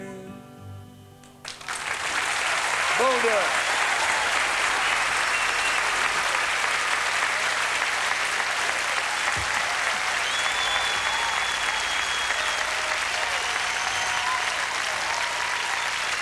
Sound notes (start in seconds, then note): 1.6 applause; 10.0 whistles, applause